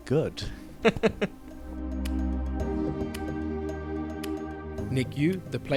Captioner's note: voiceover